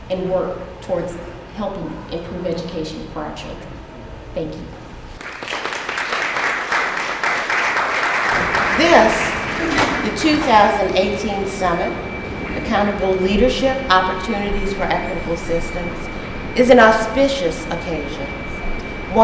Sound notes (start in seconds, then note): 5.2 audience applauds